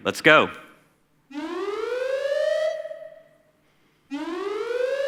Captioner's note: alarm blaring